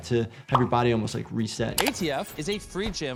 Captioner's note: text popping; mouse clicking